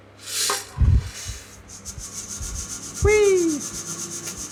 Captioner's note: beans rattling